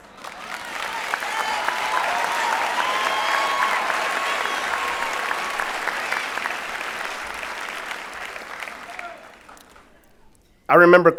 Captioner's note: applause and Cheering